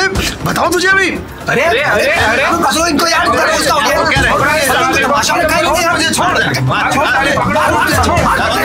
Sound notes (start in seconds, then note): 0.0 Crowd noises; 5.9 random crowd noises